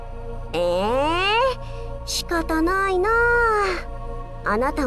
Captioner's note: sigh